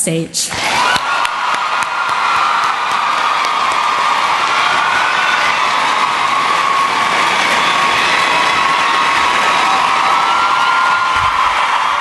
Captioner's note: cheering and Applause